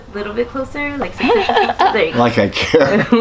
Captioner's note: laughing